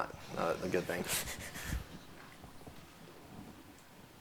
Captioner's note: laughing